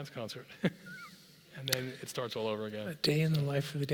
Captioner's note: laugh